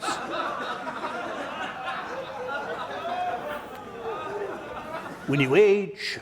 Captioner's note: laughing